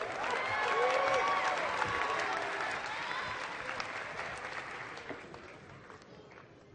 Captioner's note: applause